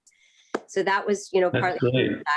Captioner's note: laughter